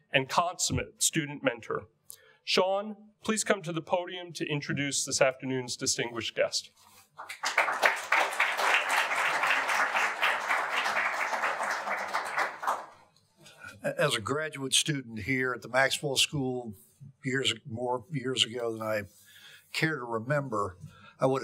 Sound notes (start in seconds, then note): 7.2 audience applauding